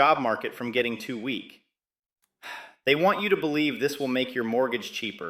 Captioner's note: sighs